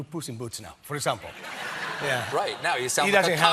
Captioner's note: laughter